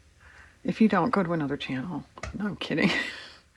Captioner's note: laughs